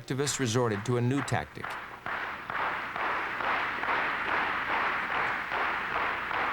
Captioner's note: audience clapping in rhythm